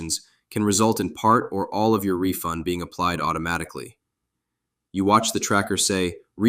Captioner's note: disbelieving